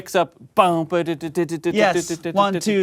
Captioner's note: imitates bassline